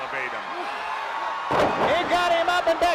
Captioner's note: crowd cheering